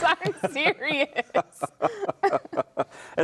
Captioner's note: laughing